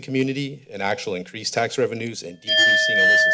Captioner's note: bell rings